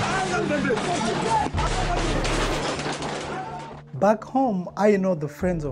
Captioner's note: yelling in foreign language